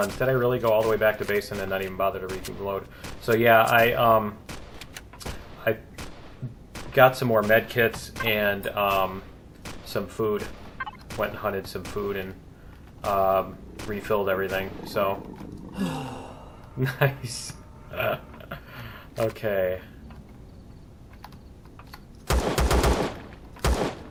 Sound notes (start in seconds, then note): 3.7 guns clicking; 5.1 turret firing; 10.0 turret firing; 13.0 turret fire continues; 16.4 alien growling; 17.9 laughs; 19.4 footsteps; 22.3 pistol firing